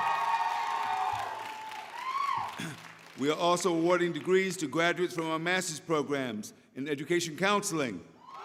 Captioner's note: applause